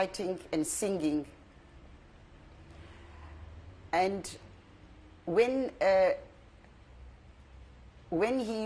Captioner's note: pauses for 3 seconds